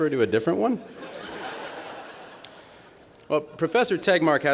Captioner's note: laughter